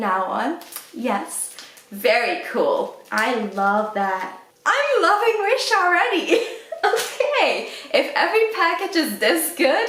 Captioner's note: laughs